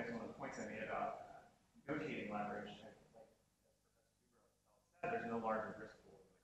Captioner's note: speaking off mic